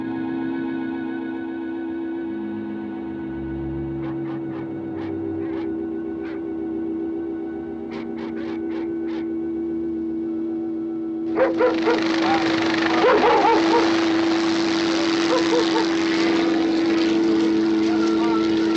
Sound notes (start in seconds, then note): 3.8 barking in distance; 11.3 barking continues; 14.7 helicopter whirring